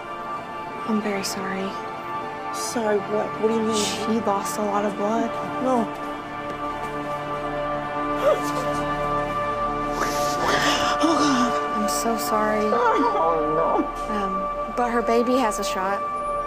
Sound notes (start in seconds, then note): 9.9 sobs